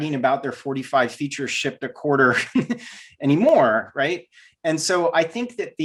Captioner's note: laughs